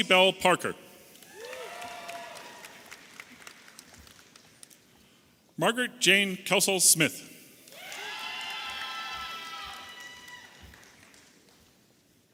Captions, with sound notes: Chelsea Belle Parker. (audience applauding and cheering) Margaret Jane Kelsall Smith. (audience cheering)